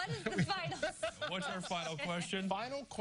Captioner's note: laughter